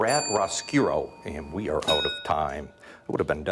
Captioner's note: bell dings